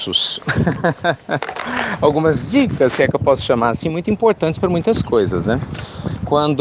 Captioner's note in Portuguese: Risos